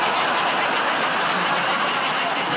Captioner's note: laughter